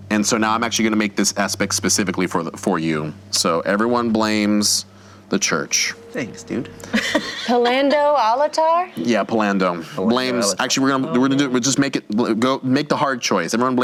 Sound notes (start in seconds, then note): 6.8 laughing